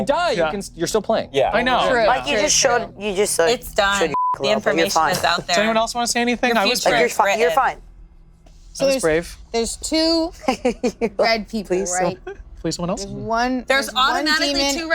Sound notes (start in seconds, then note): 4.1 beep